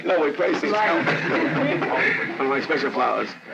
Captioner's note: laughing